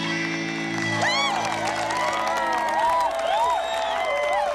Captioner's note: cheering and applause